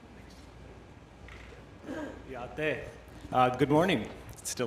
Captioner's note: speaking Indigenous language